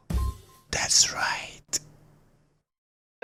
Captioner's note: whispers